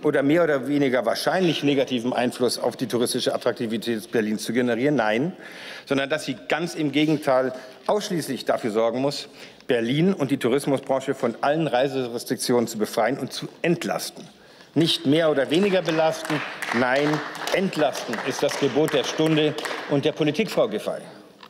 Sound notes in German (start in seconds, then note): 15.3 Beifall